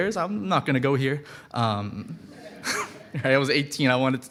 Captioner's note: audience laughing